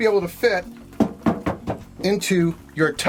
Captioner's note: taps metal to tub